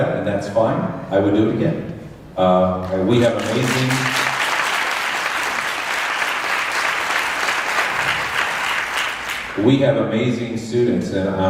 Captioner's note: applause